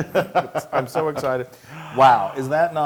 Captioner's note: laugh